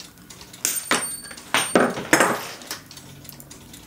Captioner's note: metal clanking